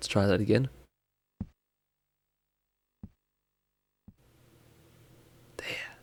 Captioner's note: quiet thudding